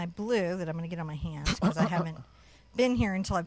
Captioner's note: chuckles